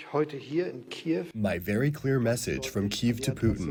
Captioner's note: through translator